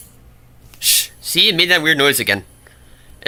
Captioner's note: shush